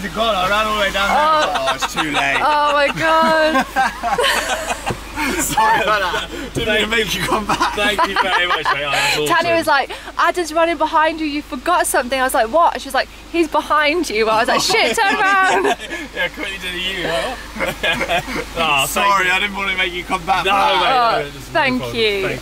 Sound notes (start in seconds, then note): 3.1 laughs; 7.1 laughing